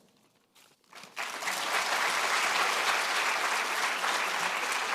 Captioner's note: audience applauding